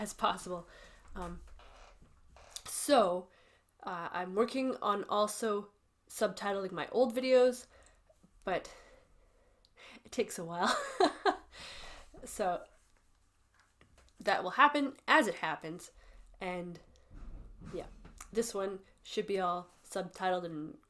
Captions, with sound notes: Um. So, uh, I'm working on also subtitling my old videos, but it takes a while, [laughs] so that will happen as it happens. And yeah, this one should be all subtitled and good to go.